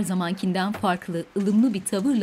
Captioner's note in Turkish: Kapı açılması sesi